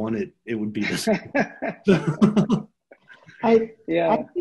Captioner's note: laughs